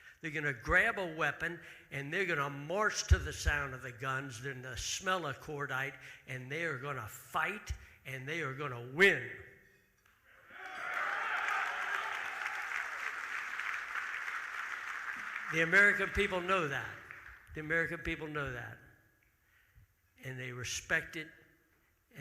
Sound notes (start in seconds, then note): 10.4 audience cheering; 10.5 audience applauding